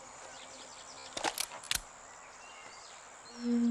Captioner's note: gun clicking